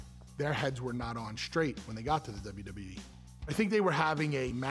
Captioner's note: none